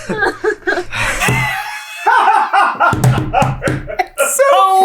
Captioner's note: equally disproportionate team laughter